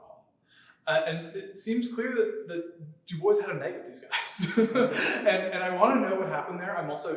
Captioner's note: laughter